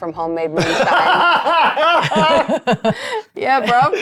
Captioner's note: roaring